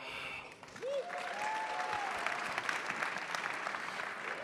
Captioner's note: crowd applauding